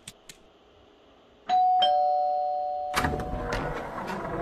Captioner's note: doorbell rings